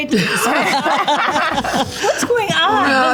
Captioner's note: group laughs